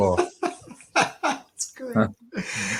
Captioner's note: laughing